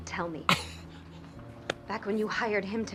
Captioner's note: Katya laughs